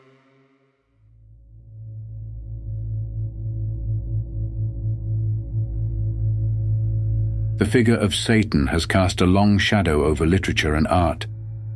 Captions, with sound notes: (ominous soundscape) The figure of Satan has cast a long shadow over literature and art